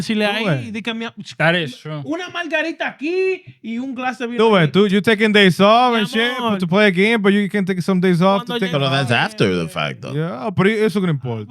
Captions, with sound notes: (Speaking Foreign Language) That is true. (Speaking Foreign Language) Dude, you're taking days off to play a game, but you can take some days off to take off. That's after the fact though. Yeah, but it's gonna be important.